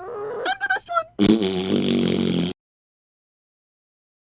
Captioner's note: wonderful blowing raspberries sound